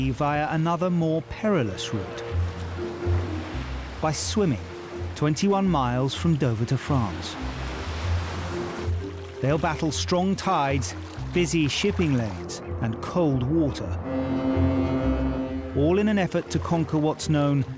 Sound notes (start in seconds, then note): 13.6 horn blares